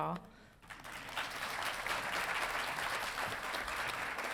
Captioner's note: audience applauding